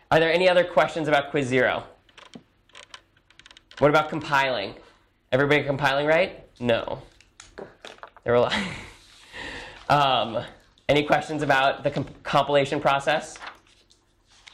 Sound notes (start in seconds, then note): 8.7 laughs